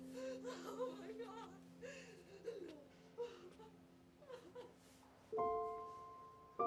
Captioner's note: sobbing